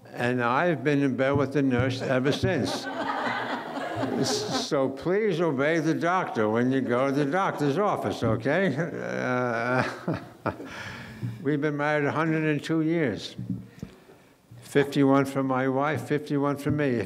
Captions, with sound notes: And I've been in bed with a nurse ever since. So please obey the doctor when you go to the doctor's office, okay? (laughing) We've been married 102 years. 51 for my wife, 51 for me.